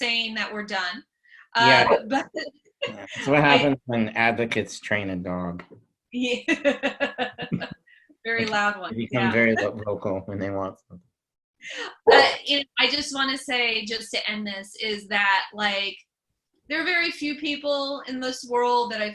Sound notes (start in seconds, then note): 6.6 laughs